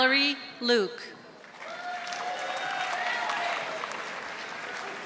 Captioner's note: audience applauding